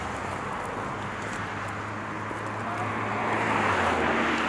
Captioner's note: cars passing